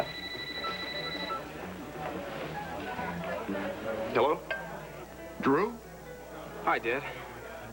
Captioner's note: telephone rings